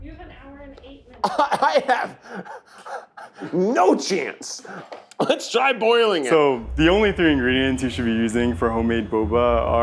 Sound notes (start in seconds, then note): 1.2 laughing